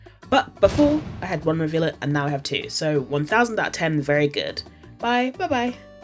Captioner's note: explosion sound